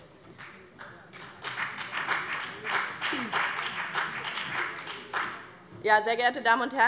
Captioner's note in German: Beifall BÜNDNIS 90/DIE GRÜNEN